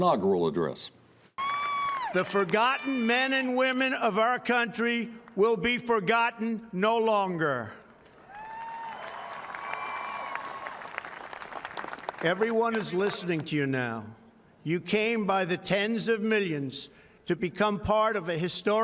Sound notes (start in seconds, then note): 8.1 applause